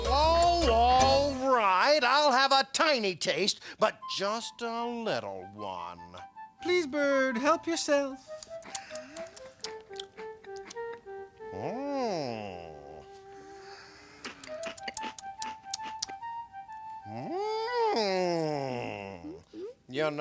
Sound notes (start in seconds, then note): 8.3 munching